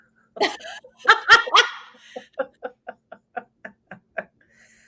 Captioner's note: both laughs